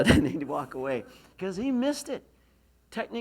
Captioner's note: laughs